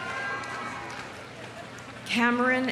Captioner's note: audience cheering